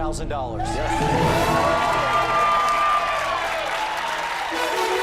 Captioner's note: cheers and applause; dramatic musical flourish